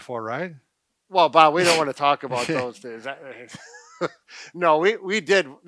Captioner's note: laughs